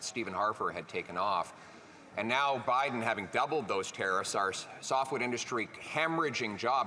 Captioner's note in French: voix de l'interprète